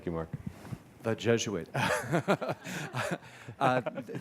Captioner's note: laughs